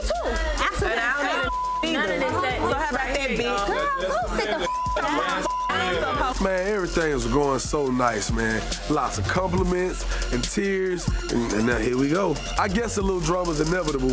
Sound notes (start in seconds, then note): 1.3 overlapping chattering; 4.8 beep; 5.4 overlapping chattering